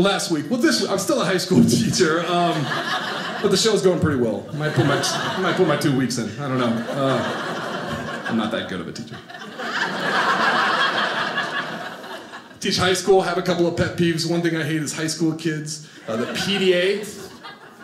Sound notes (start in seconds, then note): 2.1 audience laughing; 9.5 audience laughing